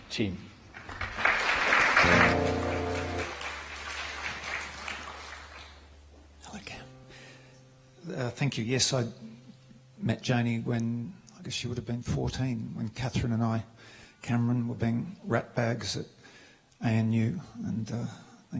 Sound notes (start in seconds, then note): 5.5 applause